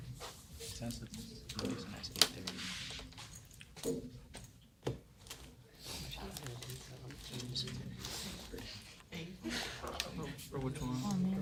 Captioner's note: student murmur